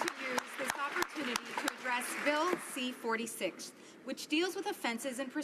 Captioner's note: applause